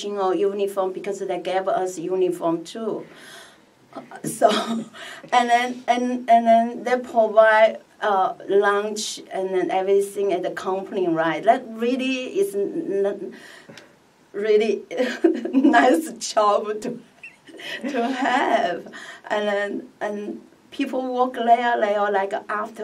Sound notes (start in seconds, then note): 17.3 laughs